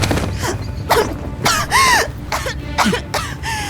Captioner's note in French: Tousse